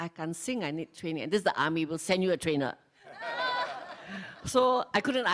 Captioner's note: laughs